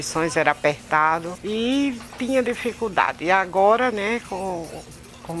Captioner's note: radio on the background